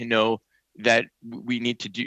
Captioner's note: speaking French